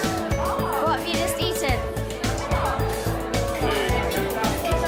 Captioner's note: laughing